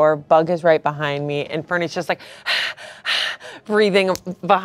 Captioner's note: pants